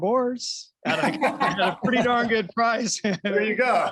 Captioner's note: laughter